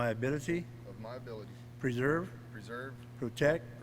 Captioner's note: none